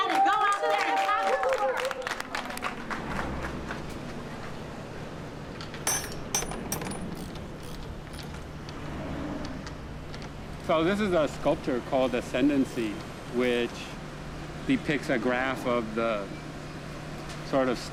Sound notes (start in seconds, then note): 0.0 all applauding; 5.6 tools clinking